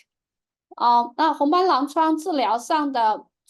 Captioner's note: speaking chinese